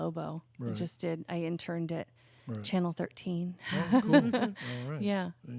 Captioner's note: laughs